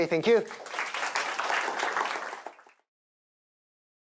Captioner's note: applause